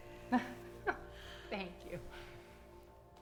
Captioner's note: laughs